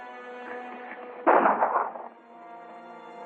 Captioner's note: gunshot